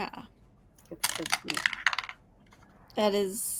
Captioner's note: dice rolling